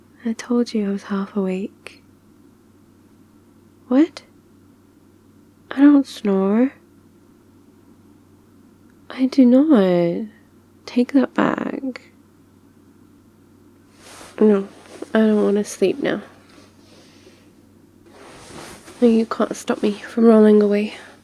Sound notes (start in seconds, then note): 13.9 suspicious shuffling